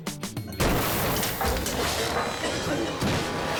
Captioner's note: airbags blast